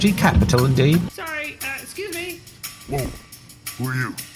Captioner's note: small, nerdy voice